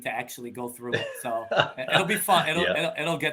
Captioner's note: laughing